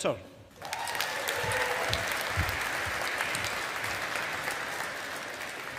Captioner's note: audience applauding